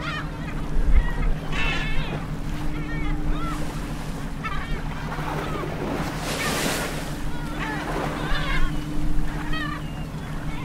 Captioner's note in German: Möwengeschrei, Maschinengeräusche, Wellen